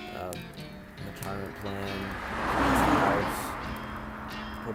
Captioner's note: loud car passes